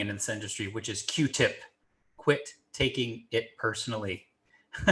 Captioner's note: laughing